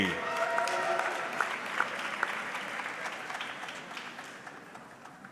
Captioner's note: audience clapping